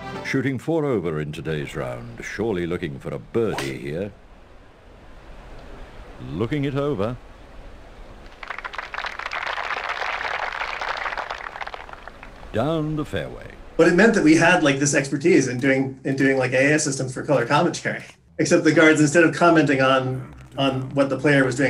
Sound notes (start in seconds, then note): 8.2 golf claps